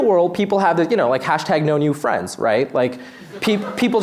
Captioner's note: laughter